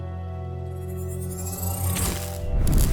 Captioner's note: energy whirring; electricity crackling